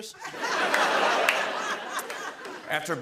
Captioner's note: laughter